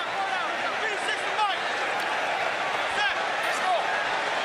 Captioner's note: shouting on field